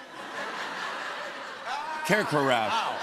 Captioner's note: laughter